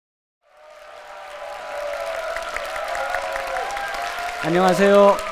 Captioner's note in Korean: 박수와 환호